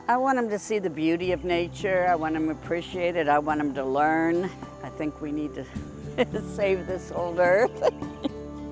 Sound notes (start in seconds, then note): 7.6 chuckling